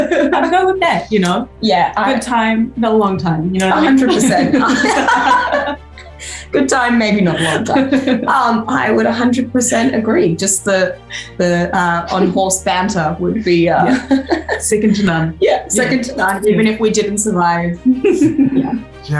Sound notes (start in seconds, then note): 3.6 laughs